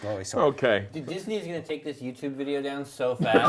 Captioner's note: giggles